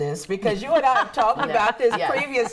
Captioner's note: laughs